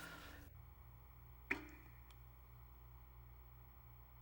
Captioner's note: water dripping